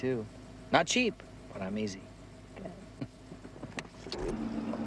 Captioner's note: chuckling